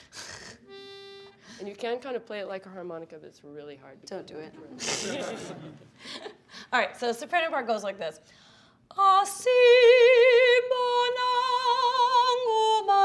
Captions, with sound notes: (blows note) You can kind of play it like a harmonica, but it's really hard. - Don't do it. (laughing) All right, so soprano part goes like this: (singing in foreign language)